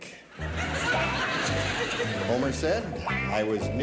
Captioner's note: laughing